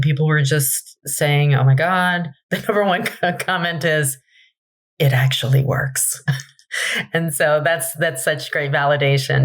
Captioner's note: laughs